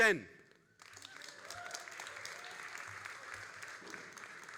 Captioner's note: all applauding